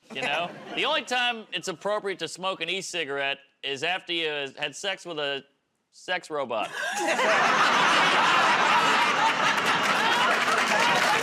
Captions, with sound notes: You know? The only time it's appropriate to smoke an e-cigarette is after you've had sex with a sex robot. [ Laughter ]